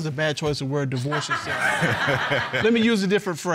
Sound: audience laughs

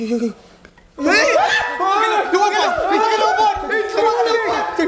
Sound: screams

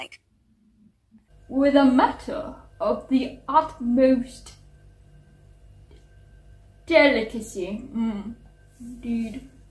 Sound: reading in a weird posh accent

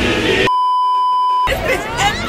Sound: beeeeeep

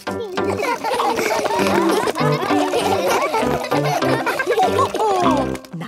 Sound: all laugh

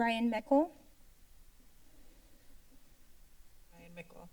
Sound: silence

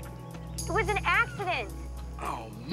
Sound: groans

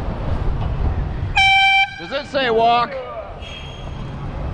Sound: airhorn

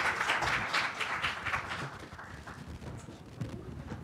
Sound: applause

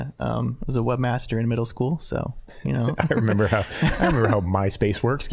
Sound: laughing

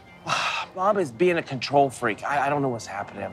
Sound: sighs

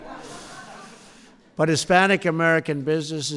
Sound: laughter

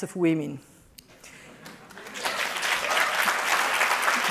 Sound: applause

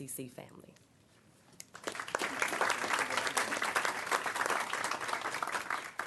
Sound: applause

